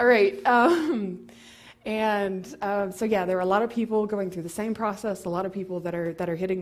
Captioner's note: laugh